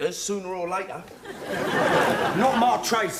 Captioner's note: audience laughing